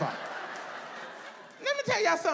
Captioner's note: audience laughs